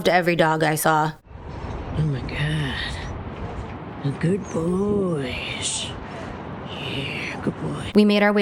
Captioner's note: hoots